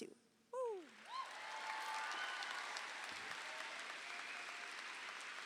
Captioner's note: audience applauding